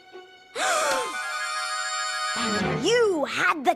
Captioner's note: gasps